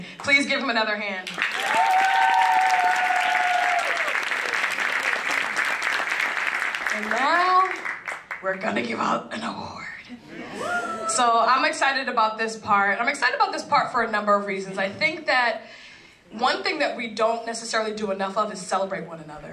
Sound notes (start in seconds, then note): 4.4 applause; 10.6 laugh